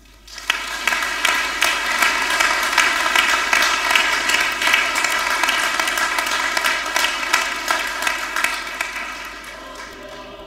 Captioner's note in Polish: oklaski